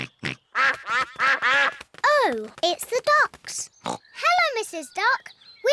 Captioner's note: quacking